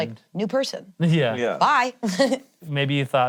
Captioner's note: laughs